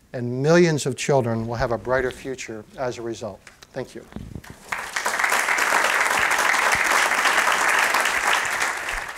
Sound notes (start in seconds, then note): 4.5 applause